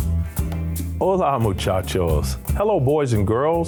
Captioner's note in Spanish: Señor hablando en lengua extranjera